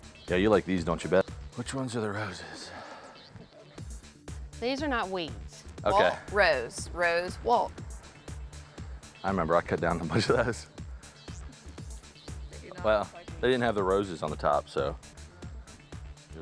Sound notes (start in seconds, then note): 2.2 sighs; 10.0 chuckles